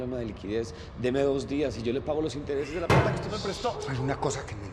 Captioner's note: he bangs on the table